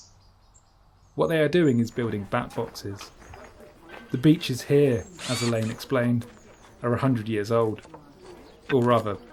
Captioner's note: chatter in background, noise from tools